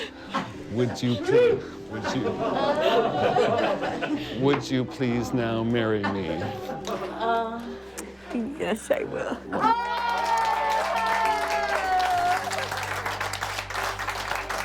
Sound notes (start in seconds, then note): 9.6 cheering; 11.6 applause